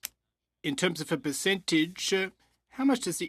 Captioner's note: speaking French